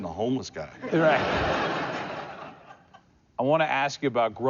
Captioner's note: laughter